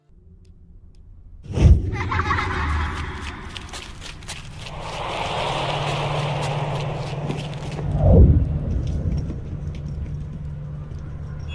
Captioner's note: tense music; kids laughing